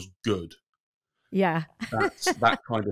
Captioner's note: laughs